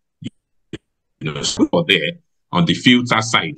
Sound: computer static breaks up speaking

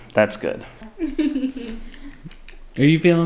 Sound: giggles

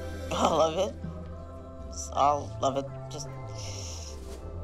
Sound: breathes deeply

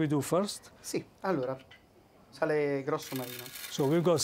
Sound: speaking Italian

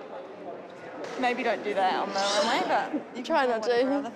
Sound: yawns

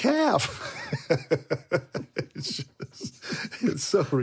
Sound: laughing

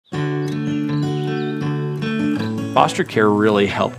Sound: birds chirping; gentle guitar music

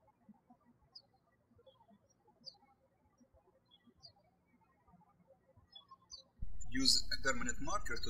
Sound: birds chirping

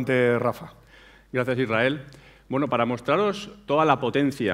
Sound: speaking spanish

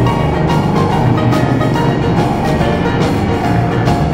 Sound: drill whirs; upbeat country music

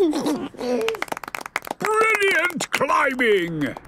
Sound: George giggles; clapping

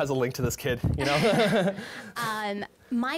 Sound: laughing

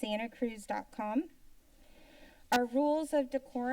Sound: pause

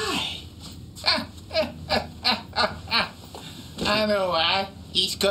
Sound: Mr. Grumpy chuckles

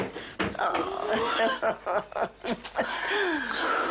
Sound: laughs

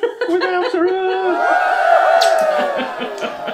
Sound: cheering

